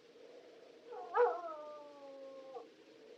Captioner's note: dog Whimpering